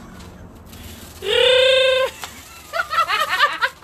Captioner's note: wookie noise; women laughing